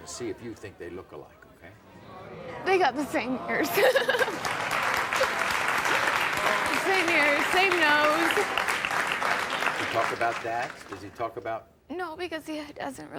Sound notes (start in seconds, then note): 3.6 laughing; 4.1 audience cheering